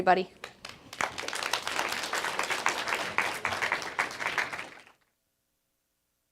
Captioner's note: applause